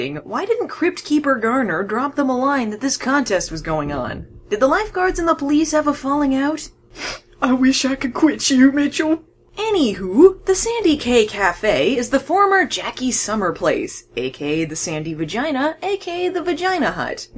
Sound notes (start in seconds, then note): 6.9 sniff